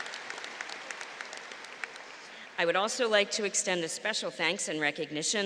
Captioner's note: applause